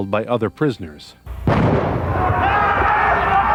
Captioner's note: gunshots firing; group yelling